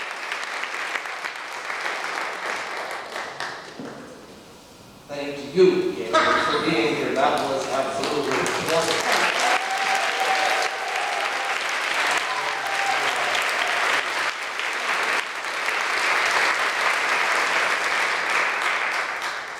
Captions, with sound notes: - Thank you Gaelynn for being here. That was absolutely wonderful. (crowd applause and cheering)